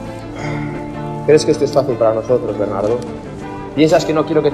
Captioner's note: sighs